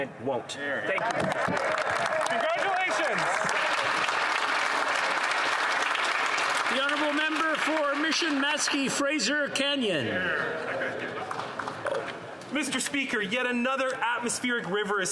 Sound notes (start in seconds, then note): 4.8 applause